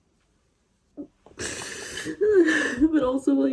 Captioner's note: sniffles, cries